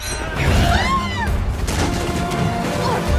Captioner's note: screaming